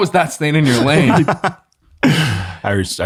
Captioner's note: laughing